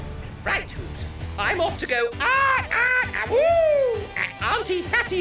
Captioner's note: screeches like Hollowbird; chuckles